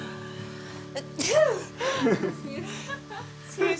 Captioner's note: sneezes